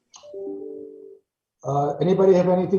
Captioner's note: notification sound